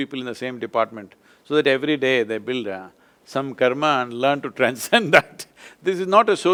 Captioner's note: laughs